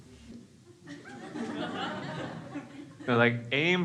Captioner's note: crowd laughs